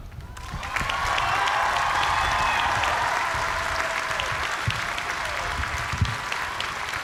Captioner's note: cheers and applause